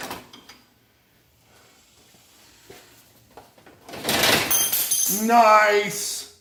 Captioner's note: tools clatter